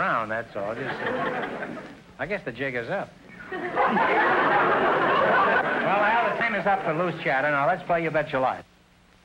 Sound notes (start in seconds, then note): 0.7 audience laughter; 3.4 audience laughter